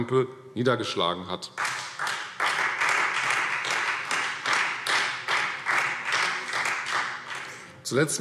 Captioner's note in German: Beifall Freie Demokraten